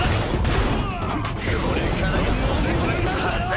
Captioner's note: yelling